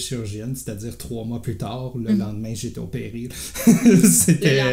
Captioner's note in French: rires